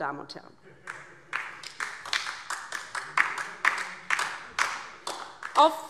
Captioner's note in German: Beifall DIE LINKE